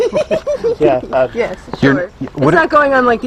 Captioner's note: laughs